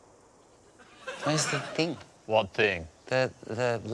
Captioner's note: deep voice